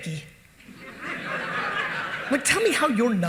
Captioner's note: audience laughing